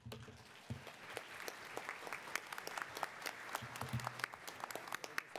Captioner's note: attendees applauding